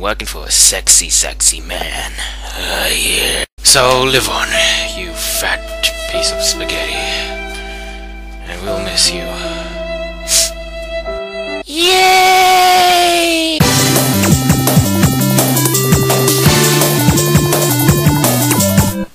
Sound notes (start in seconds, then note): 10.2 sniff